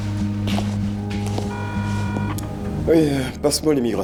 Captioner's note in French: Le téléphone sonne